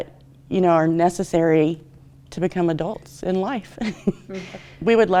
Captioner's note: chuckles